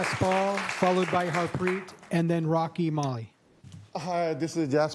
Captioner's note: applause